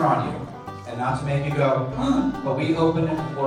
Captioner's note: gasps